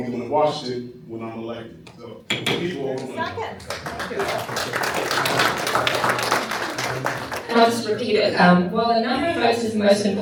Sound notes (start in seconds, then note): 3.5 applause